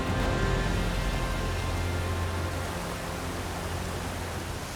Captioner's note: water rushing